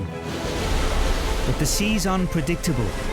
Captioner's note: waves crashing